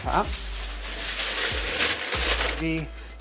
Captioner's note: foil crinkling